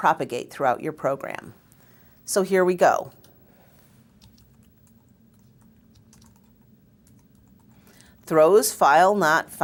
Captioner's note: pause